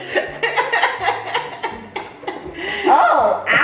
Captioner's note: family laugh